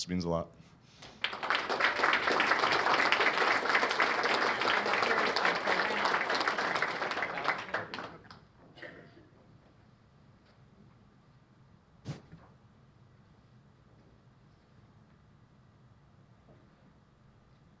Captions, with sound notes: This means a lot. [LAUGHTER]